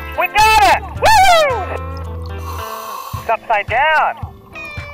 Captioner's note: diver exclaiming